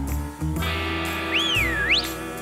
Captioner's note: whistles